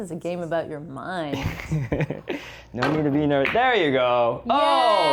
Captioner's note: laughs